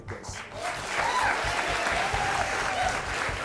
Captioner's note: applause